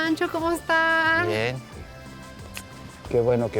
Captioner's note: speaking Spanish